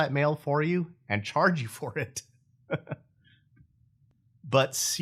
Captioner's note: laughing